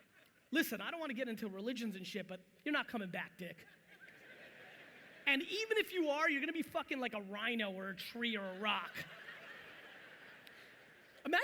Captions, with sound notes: Listen, I don't want to get into religions and shit but you're not coming back, dick. (audience laughing) And even if you are, you're going to be fucking like a rhino or a tree or a rock. (audience laughing)